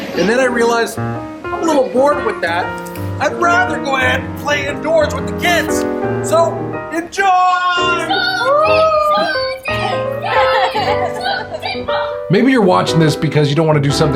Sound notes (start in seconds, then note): 6.9 kids cheering; 8.0 woman laughs